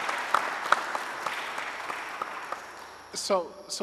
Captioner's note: audience applauding